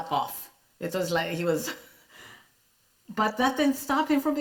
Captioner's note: chuckles